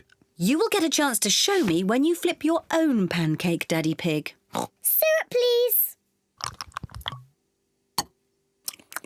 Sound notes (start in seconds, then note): 4.6 oinks